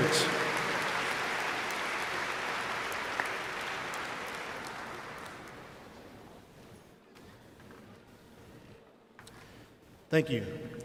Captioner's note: applause